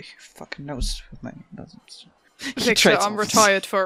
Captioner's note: laughs